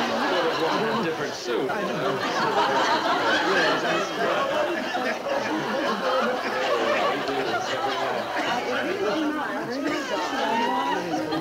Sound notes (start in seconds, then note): 3.8 audience laughing; 3.8 people chattering